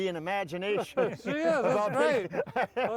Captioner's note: all laughing